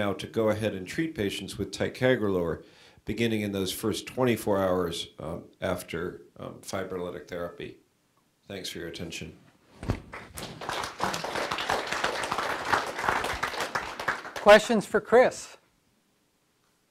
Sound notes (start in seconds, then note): 10.0 audience clapping